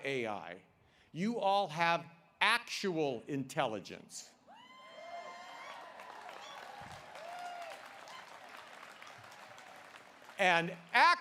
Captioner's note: applause